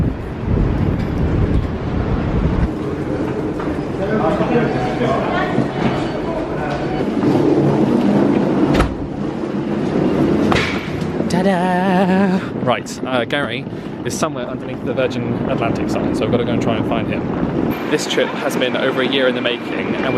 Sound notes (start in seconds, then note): 0.2 suitcase wheels trundling; 7.3 suitcase wheels trundling